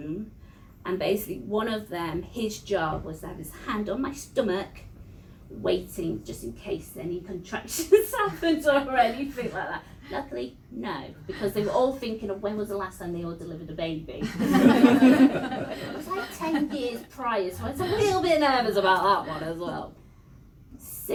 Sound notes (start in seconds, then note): 9.8 laughs; 14.2 laughter